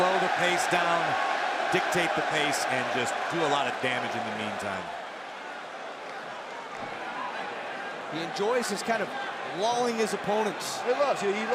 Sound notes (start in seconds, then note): 5.2 crowd chatter